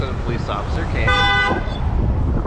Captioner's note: honk!!!!!!